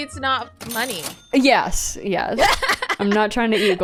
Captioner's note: laughs